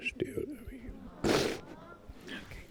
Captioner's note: sniffling